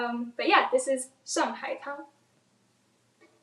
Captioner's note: speaks in foreign language